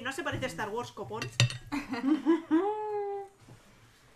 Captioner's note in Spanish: risas